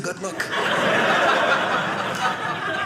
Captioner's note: audience laughing